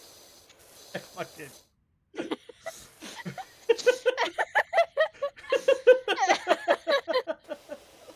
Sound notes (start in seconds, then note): 2.1 laughs